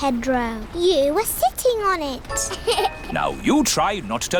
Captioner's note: laughs